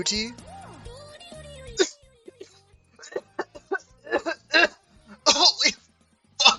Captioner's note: horrible coughing sounds in the distance